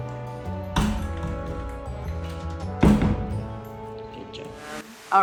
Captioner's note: door closing softly